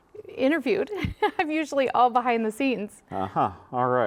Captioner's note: laughs